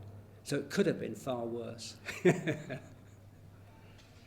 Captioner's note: laughs